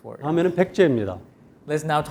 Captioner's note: speaking in Korean